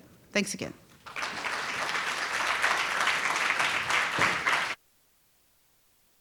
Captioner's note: audience applauding